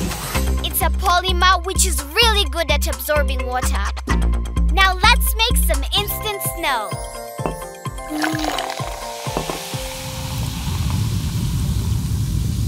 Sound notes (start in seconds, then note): 8.0 sizzling